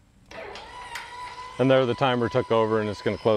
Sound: gates buzzing

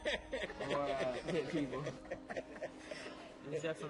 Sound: laughing

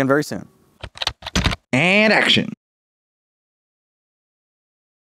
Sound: typing

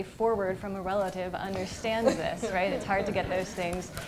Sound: gentle laughter

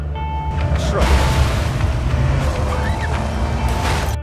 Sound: crash

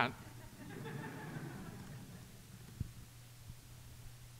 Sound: audience chuckling

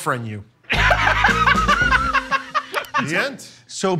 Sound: laughter

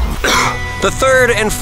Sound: coughs

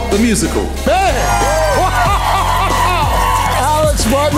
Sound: crowd cheering

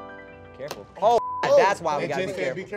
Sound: beep

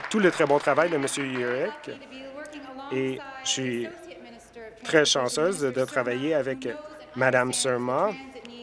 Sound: applause

